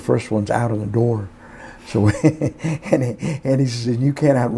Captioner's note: laughs